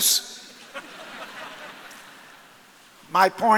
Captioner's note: audience laughs